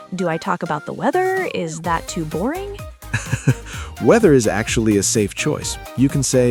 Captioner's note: laughs